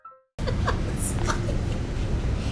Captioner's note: mom laughing